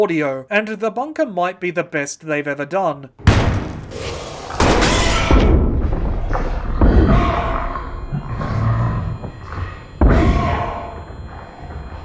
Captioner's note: door banging open, followed by chaos